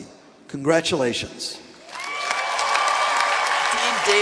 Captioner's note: cheering